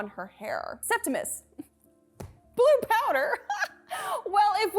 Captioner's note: laughs